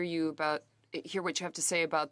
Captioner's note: speaking French